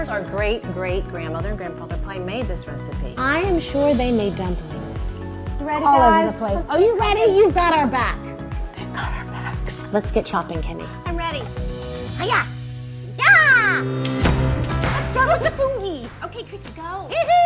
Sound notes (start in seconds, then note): 8.4 whispers; 14.0 upbeat music